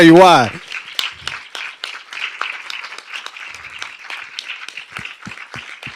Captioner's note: applause